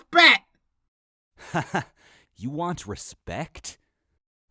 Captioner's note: chuckles